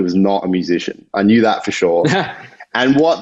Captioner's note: chuckles